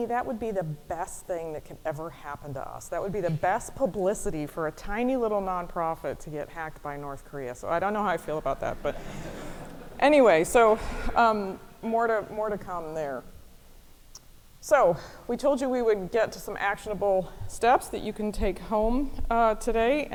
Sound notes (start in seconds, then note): 8.7 audience laughing